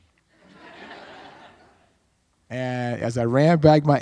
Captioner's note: audience laughs